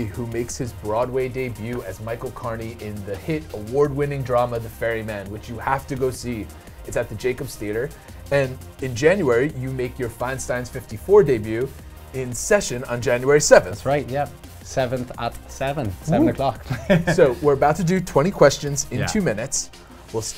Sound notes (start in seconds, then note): 16.5 laughs